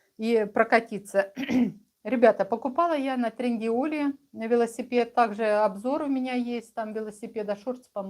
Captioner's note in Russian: откашливается